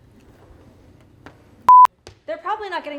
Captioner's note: beep